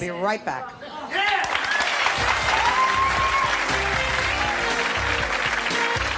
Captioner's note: applause; upbeat music